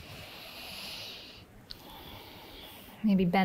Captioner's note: exhales; inhales